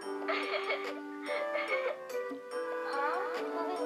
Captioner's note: giggles